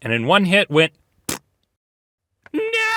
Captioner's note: splat